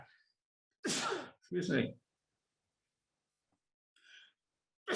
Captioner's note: sneezes